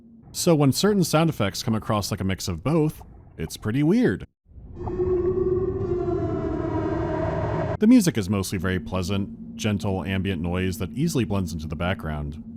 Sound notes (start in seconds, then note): 4.5 air raid whale song